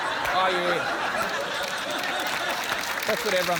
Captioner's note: applause